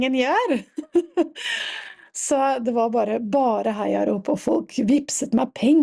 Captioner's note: laughter